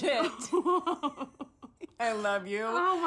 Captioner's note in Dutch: lacht